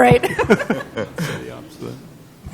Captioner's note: laughter